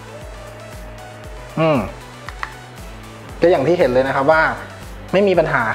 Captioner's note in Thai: ปรบมือ